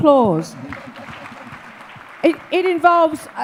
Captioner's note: audience applause